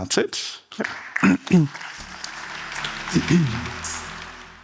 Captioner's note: audience applauds